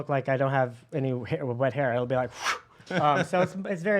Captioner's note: wooshes